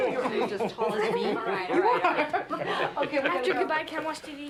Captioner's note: laughing